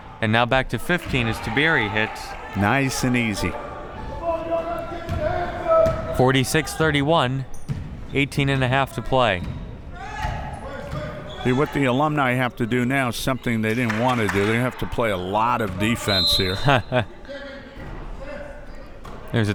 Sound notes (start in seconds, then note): 16.0 whistle; 16.5 laughs